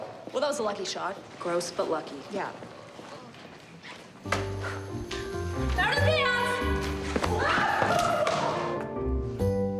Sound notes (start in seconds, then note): 7.1 yells